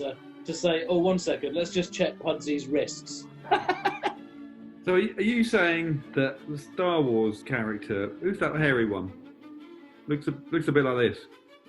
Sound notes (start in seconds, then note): 3.4 laughing